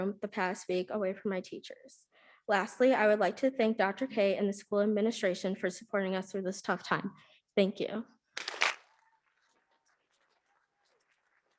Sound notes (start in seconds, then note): 8.8 audience clapping